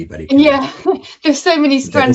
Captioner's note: chuckles